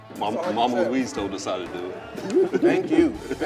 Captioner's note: laughs